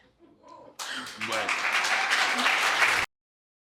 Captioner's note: audience applauding